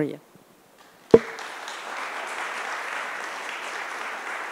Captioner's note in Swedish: Applause